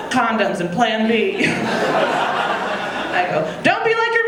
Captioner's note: audience laughing